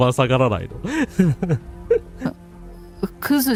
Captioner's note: laughter